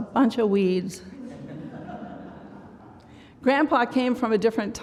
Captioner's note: laughter